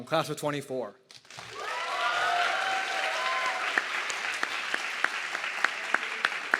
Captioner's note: audience clapping and cheering